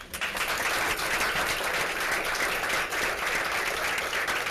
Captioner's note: applause